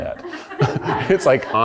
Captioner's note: people laugh